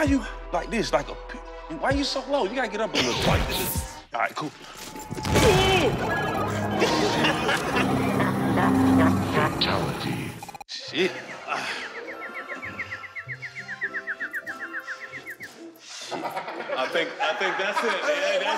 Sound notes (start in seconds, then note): 5.5 grunts; 6.1 laughter; 8.4 evil laughter; 11.8 tweet!